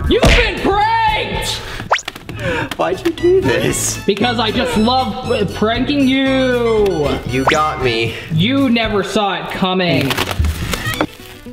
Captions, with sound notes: You've been pranked! - (chuckles) Why'd you do this? Because I just love pranking you! - You got me. You never saw it coming.